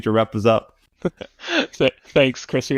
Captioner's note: laughs